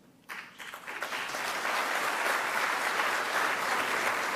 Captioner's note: audience clapping